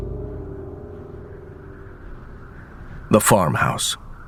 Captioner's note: wind gusting